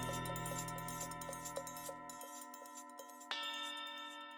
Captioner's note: bells ringing